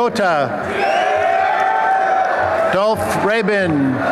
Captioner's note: applause and cheering